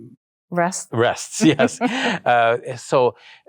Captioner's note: both laughs